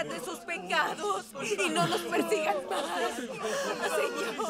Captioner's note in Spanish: llora